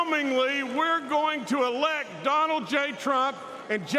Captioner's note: cheers and applause